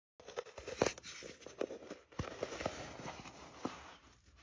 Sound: texture rubbing

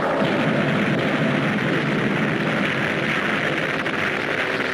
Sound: volcano booms

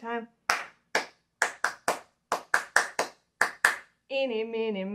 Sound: clapping

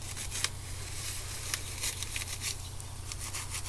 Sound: slicing sound

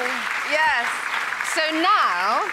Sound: applause

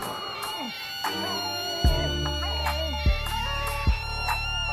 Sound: tires screeching; Carson screaming

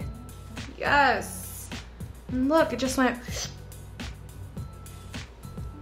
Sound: sharp inhale

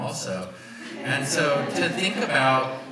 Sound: audience laughs

